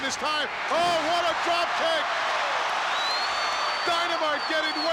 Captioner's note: crowd cheers